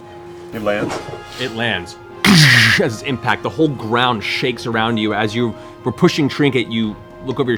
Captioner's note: impact